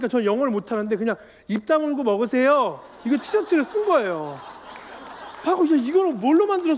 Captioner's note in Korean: 웃음